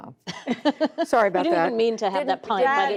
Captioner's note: laughter